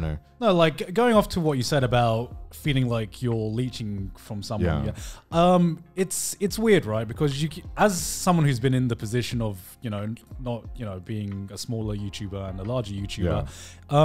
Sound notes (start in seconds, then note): none